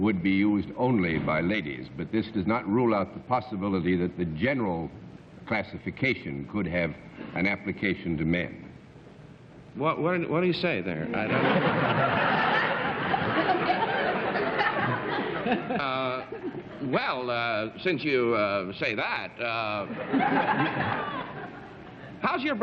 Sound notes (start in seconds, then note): 12.7 laughter